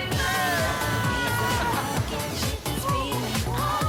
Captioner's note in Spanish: Gritos